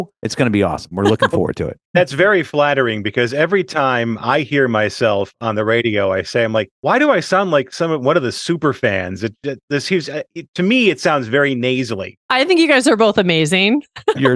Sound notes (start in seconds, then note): 0.3 laughs